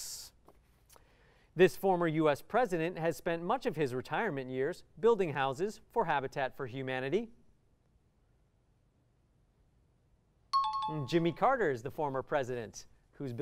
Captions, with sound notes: This former US President has spent much of his retirement years building houses for Habitat for Humanity. [bell ringing] Jimmy Carter is the former president who's building houses.